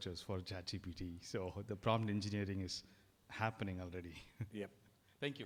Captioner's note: chuckles